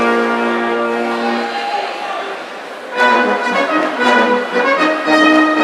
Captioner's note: audience cheering